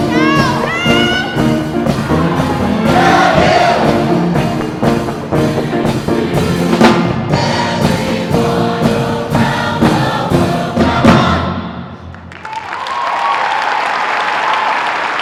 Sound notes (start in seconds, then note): 12.1 applause